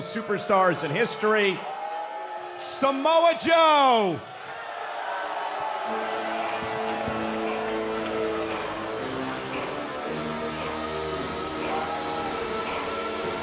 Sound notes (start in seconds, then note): 2.4 cheers & boos; 5.4 cheers & boos